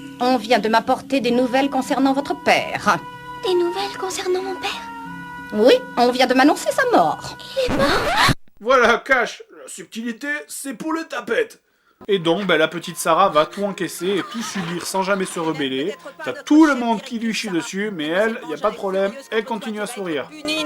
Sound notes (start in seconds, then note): 7.6 vinyl skidding Noise